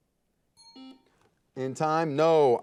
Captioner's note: timer beeping